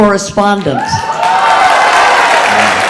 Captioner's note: audience cheering